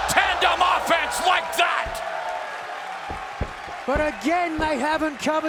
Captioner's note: fans cheering